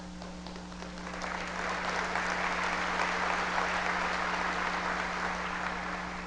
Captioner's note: audience applause